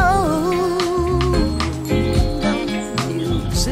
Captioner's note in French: gazouillis d'oiseaux